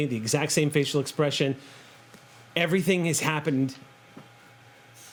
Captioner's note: none